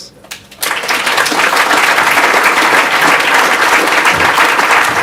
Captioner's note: audience applause